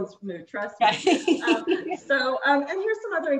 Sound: both laugh

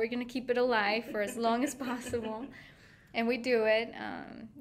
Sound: laughing

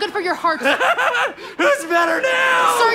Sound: maniacal laughter

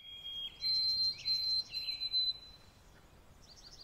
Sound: birds chirping

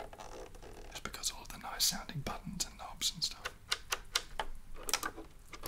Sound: whispers

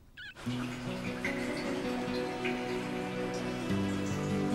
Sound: water dribbling; gentle music

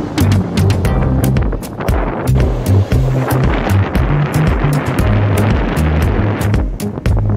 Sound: wind blowing

